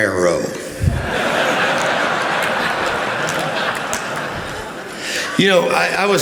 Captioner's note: laughter